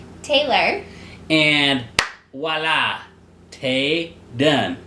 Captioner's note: claps